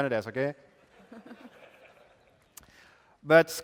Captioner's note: laughter